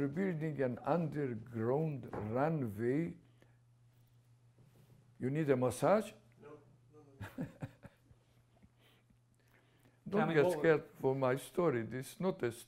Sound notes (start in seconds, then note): 3.3 pauses for 3 seconds; 7.2 laughs